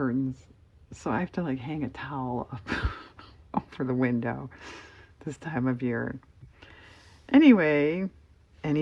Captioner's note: laughs